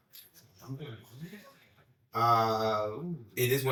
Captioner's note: whispering